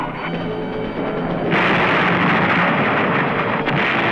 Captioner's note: blasting